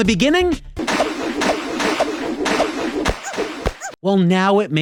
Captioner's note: repeated crashing